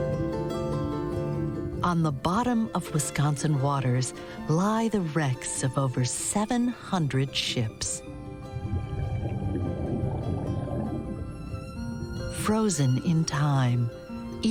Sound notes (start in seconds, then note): 8.1 bubbling